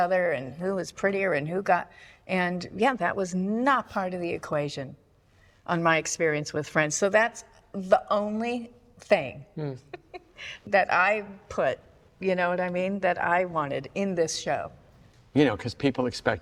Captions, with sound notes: and "Who was prettier?" and "Who got..." And yeah, that was not part of the equation on my experience with Friends. So that's the only thing... (CHUCKLES) ...that I put-- You know what I mean? That I wanted in this show. You know, because people expected